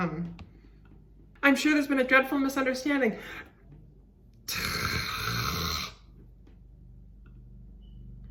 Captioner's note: exasperated noises